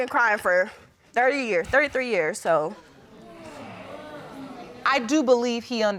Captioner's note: audience exclaims